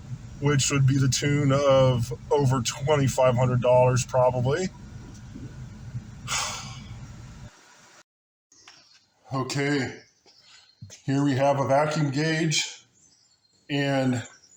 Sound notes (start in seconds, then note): 6.2 sighs